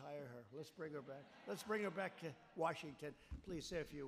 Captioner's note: laughter